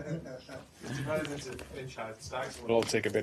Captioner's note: laughter